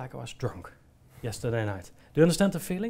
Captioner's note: quietly exhales